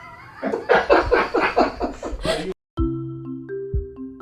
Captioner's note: laughter